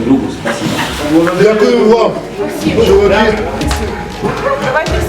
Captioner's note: ovations